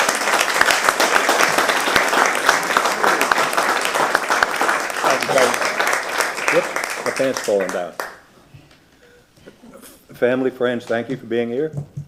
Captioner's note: applause